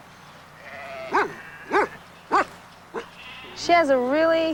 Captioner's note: woof! woof!